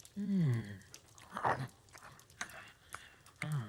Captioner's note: sighs